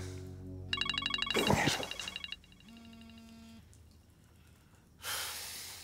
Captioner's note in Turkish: Telefon çalıyor